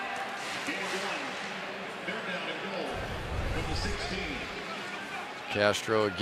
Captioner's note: pa announcement